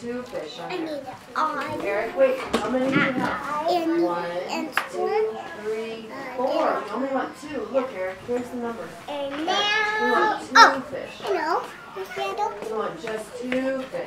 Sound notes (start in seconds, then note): 2.1 background classroom chatter